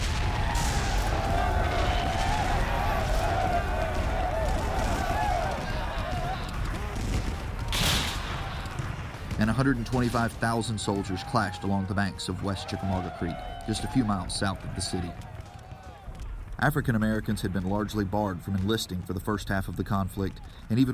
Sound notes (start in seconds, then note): 0.0 cannon fire and sounds of battle; 5.4 cheering "rebel yell"